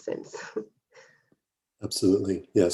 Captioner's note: chuckles